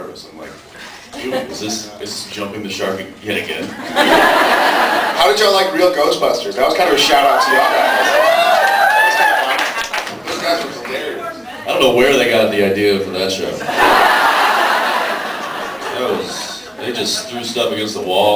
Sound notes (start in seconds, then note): 4.1 laughs; 7.0 cheers; 7.1 screams, cheers, applauds; 13.6 laughs